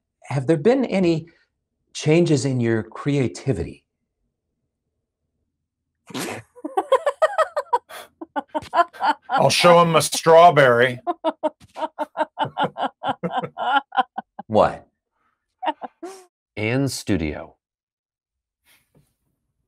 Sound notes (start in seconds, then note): 6.4 laughs; 11.4 laughing